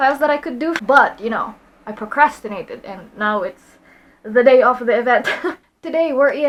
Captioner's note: laughs